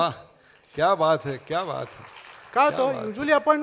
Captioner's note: applause